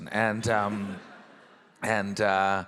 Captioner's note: audience laughing